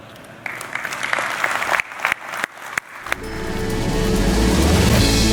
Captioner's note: audience clapping; upbeat music